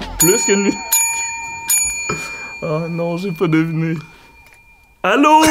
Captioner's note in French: son de clochette